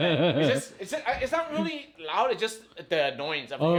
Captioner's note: both laughing